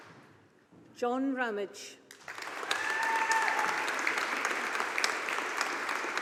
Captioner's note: audience applauding